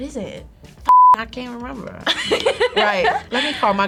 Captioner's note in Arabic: صافرة